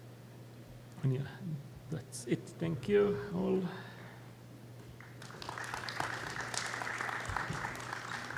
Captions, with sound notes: And that's it. Thank you all. [APPLAUSE]